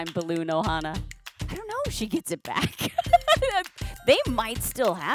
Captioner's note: laughs